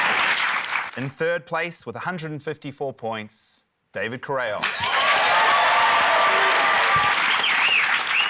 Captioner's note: cheering, applause; cheering, applause